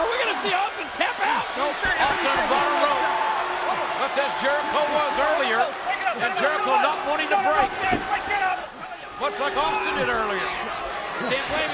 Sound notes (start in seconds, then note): 3.1 audience cheers